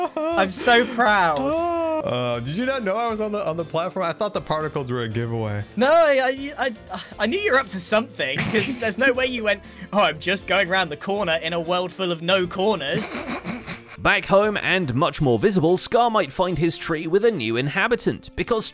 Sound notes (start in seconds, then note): 6.6 sighs; 12.9 snickers